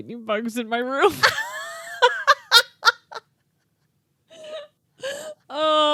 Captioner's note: laughing